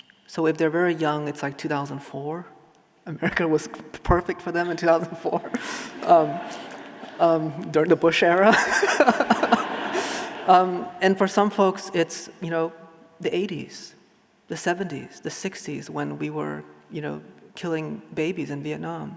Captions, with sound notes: So if they're very young, it's like 2004, America was perfect for them in 2004. (audience laughing) During the Bush era. And for some folks, it's the 80s, the 70s, the 60s, when we were killing babies in Vietnam.